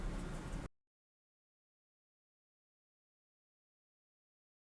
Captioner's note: silence